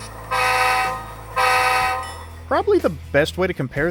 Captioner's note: 2 horn blasts